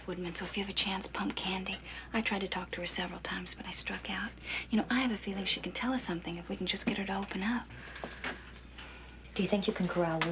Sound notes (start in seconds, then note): none